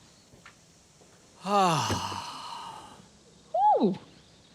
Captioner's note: sighs